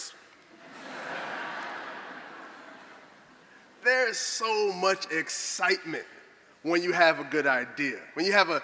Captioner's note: laughter